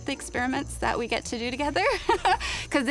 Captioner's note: laughs